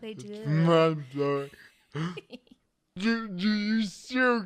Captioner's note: chuckles